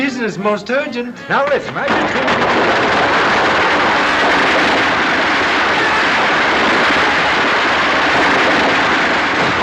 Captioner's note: fireworks explode